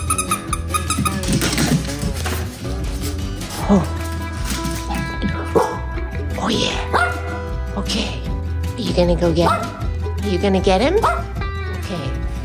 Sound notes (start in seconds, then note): 0.0 squeaking; 5.4 bark; 9.4 bark; 11.0 bark